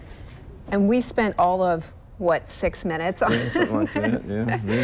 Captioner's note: laughs